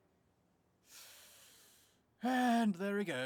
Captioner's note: inhales